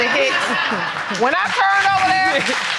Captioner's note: audience laughing